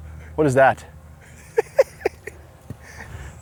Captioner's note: laughs